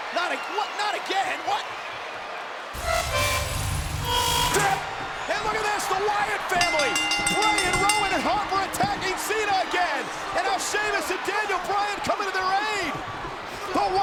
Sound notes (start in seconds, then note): 2.8 eerie distorted music plays; 6.9 bell rings